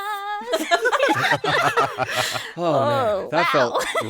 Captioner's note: laughing